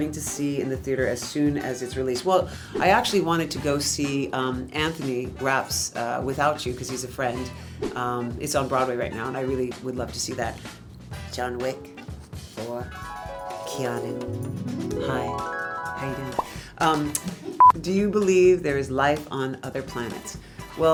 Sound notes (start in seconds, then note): 2.6 air whooshing; 8.2 air whooshing; 12.9 ethereal music; 16.2 bubble pops; 17.6 tone beeps